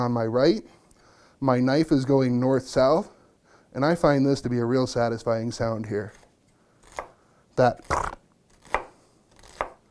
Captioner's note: chopping onion sound